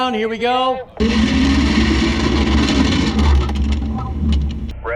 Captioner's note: mechanical grinding